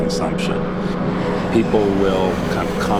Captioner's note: plane booming